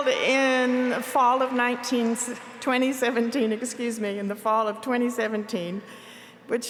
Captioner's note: applause